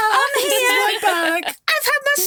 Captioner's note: chuckling